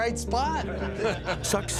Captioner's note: laughter